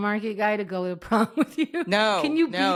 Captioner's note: laughs